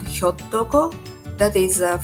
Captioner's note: speaking in Japanese language